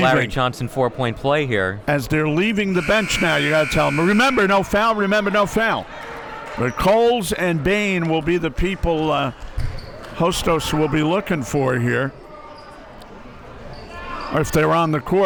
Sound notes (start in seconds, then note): 2.4 buzzer blares